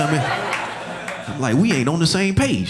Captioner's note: audience laughing